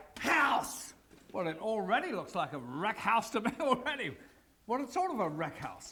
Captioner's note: laugh